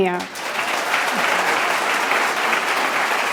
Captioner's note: applause